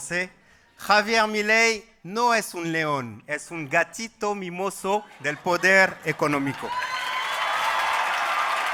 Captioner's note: Spanish